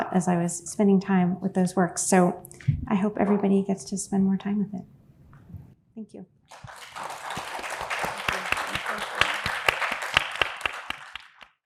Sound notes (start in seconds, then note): 6.5 audience applauding